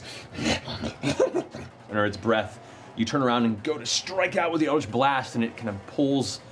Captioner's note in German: Hyänenlachen